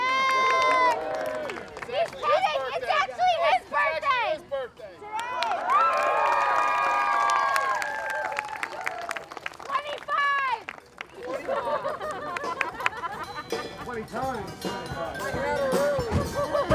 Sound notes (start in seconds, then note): 0.0 audience cheers; 0.0 audience applauds; 5.1 audience cheers; 5.2 audience applauds; 11.2 group laughs; 16.0 audience laughs; 16.5 slow music continues